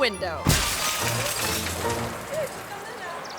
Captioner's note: glass shattering; car door thuds